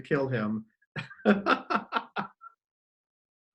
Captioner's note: laughs